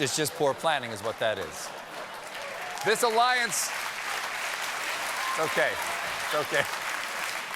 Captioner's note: applause